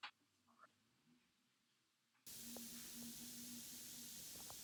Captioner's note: fizzing